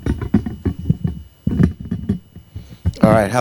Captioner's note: mic rattling